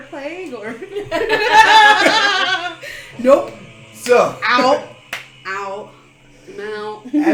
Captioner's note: nervous laughter